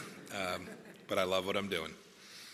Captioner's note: laughter